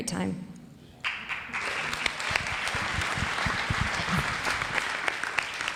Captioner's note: audience applauds